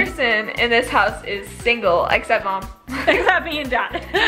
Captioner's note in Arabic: ضحكات خافتة